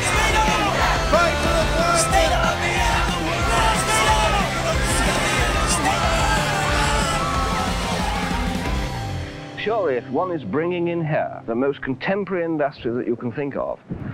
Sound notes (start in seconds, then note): 1.1 chanting